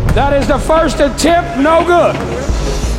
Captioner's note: ball bouncing; dunk sound